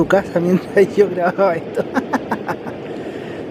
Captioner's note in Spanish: risas